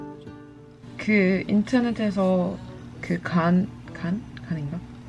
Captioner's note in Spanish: hablando en coreano